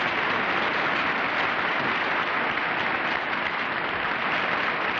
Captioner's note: applause